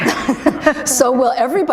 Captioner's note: laughter